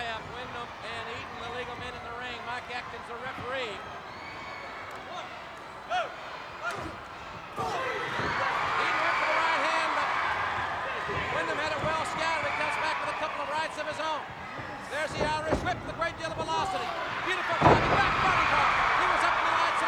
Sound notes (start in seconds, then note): 8.4 crowd cheers